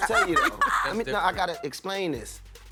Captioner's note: laughter